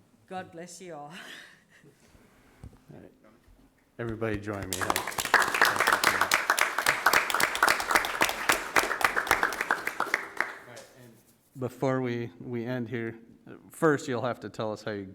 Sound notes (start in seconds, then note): 4.0 audience clapping